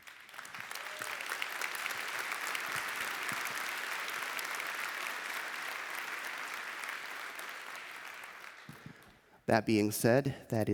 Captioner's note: applause